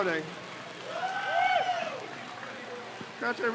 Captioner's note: crowd cheers